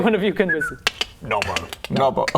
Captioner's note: chk chk